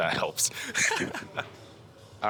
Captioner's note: laughing